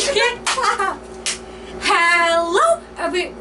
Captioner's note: claps anyways